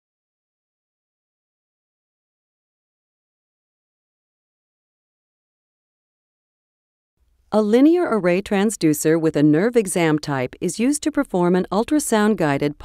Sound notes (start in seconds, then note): 8.0 voiceover